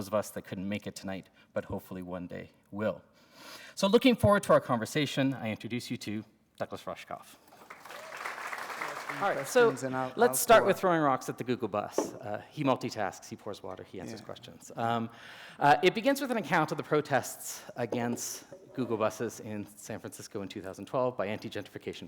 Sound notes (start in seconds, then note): 7.4 applause